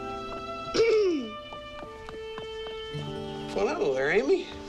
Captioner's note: Amy clears throat